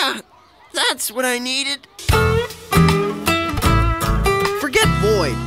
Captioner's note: none